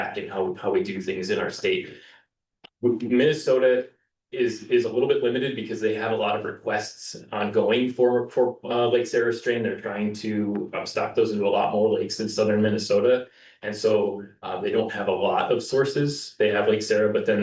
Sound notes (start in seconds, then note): none